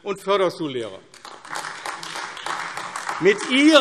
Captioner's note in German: Beifall AfD